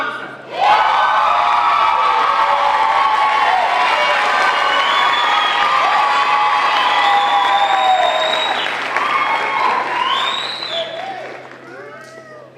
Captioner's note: applause